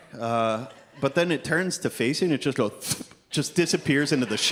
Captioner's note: thwip